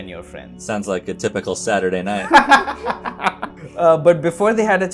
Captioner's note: laughter